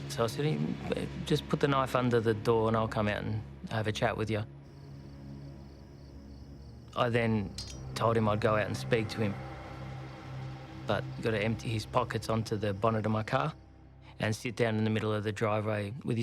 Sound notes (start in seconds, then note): 5.2 insects chirping